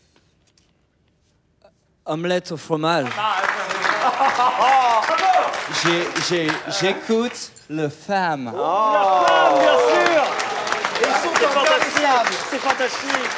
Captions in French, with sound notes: (avec un accent) Omelette au fromage. aplaudissement* - Bravo ! J’é... j’é... j’écoute Le Femme Ooooooh ! aplaudissement* *aplaudissement* La Femme bien sûr ! Ils sont intarissables ! - C’est fantastique